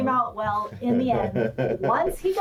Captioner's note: laughs